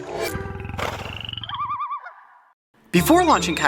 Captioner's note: animal sounds